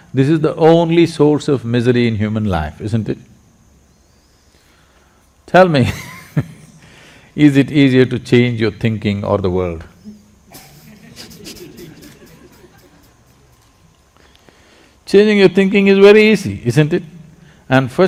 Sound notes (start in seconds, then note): 6.0 laughs; 10.5 laughter